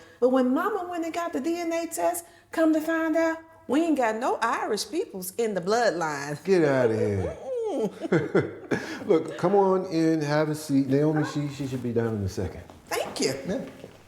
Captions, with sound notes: But when Mama went and got the DNA test, come to find out, we ain't got no Irish peoples in the bloodline. Get out of here. [CHUCKLING] Mm-mm. [laughing] Look, come on in, have a seat. Naomi, she should be down in a second. - Thank you. - Yeah.